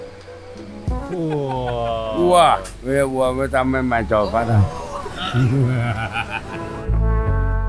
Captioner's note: background music; speaking Vietnamese; background music